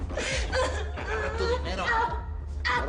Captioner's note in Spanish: Sollozos